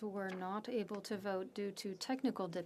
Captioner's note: speaking French